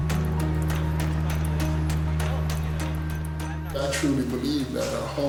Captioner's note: background talking